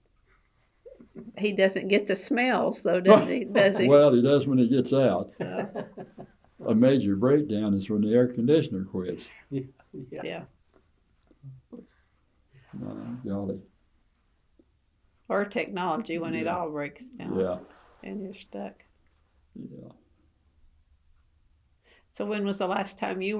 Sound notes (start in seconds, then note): 3.0 laughs; 5.3 laughter